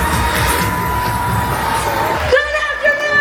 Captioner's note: crowd cheers